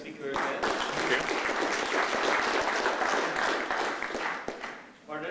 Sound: applause

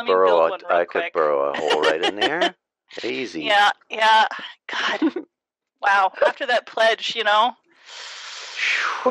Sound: laughter

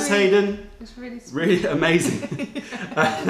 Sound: laughter

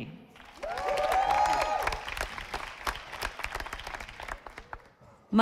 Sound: audience applauding

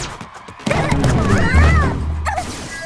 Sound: yelling

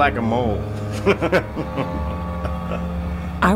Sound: men laughing

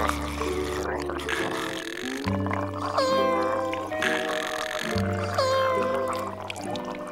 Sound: gurgling; snoring

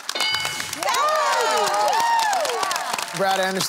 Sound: cheering

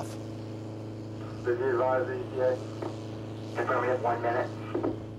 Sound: radio chatter

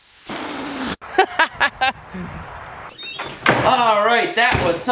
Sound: laughs

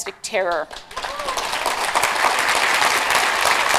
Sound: applause

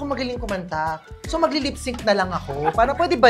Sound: laughs

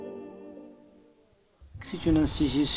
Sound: speaking french

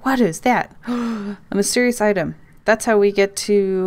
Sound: gasp

